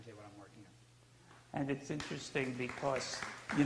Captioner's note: audience applauds